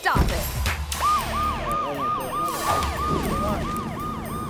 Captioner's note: police siren blares